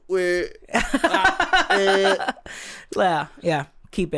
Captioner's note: laughs